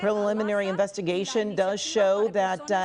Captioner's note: speaking in spanish